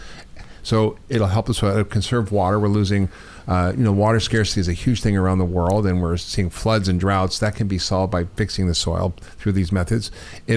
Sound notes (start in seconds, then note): none